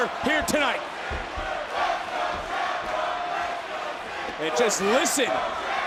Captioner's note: audience chanting